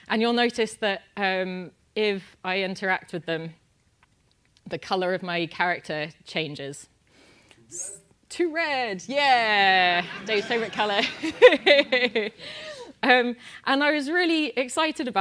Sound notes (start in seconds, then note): 9.9 laugh